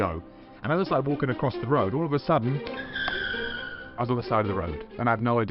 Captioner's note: screaching tires noise